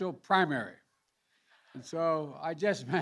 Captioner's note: laughter